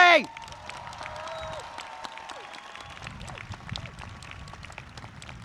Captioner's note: audience cheers and claps